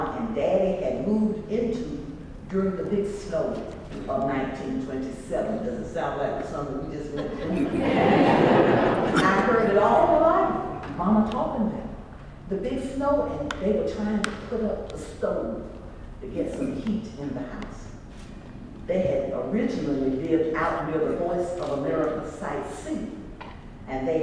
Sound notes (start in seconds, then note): 7.2 laugh